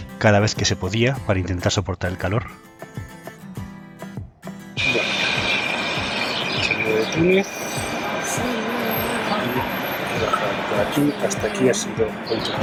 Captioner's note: audio from the cameras